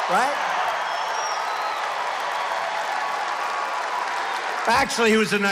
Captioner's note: applause